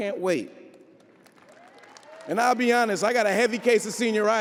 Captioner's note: audience applauding